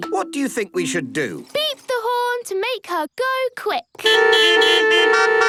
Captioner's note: beeping